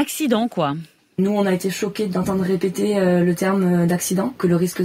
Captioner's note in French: Voix d'une jeune femme